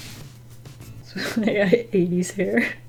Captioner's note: laughs